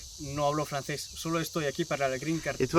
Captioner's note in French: parle espagnol